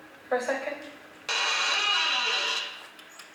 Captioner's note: squeak of a door opening